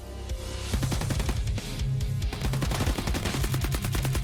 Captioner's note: rapid gunfire